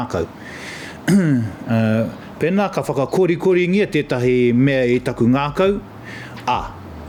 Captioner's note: clears throat